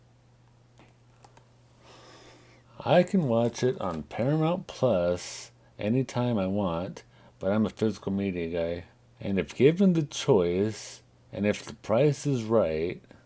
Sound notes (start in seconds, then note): none